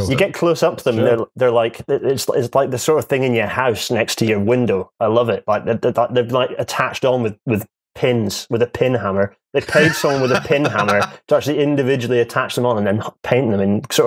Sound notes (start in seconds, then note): 5.8 stammers; 9.6 laughs